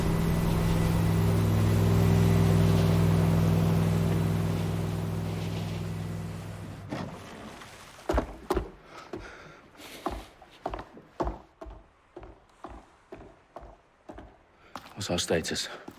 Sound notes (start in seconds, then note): 8.8 breathing